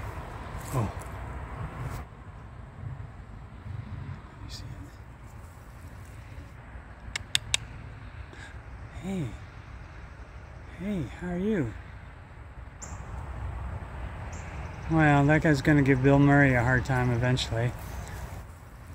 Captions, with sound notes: Oh! [Whispers] Do you see it? Hey Hey, how are you? Well, that guy's going to give Bill Murray a hard time eventually.